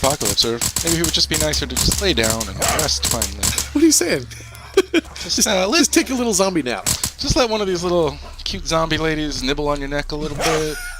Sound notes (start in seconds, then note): 1.6 laughing